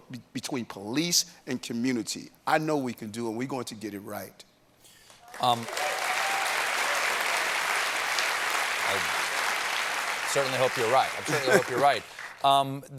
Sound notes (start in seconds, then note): 5.1 applause